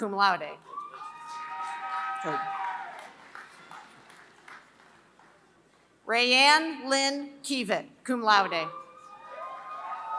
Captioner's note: applause